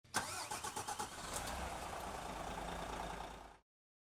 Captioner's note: engine revving